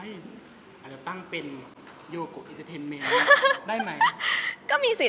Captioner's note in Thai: เสียงหัวเราะ